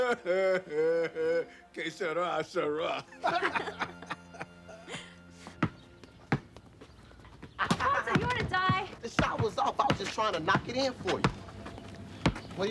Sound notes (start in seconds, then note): 0.0 laughter; 2.0 foreign language